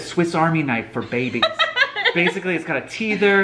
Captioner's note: laughs